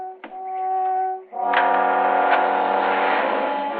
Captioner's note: car engine starting